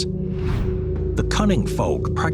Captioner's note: screen wipe whooshes